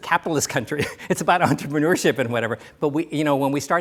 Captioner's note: laughs